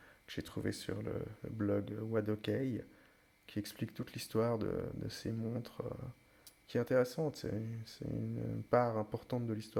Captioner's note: in french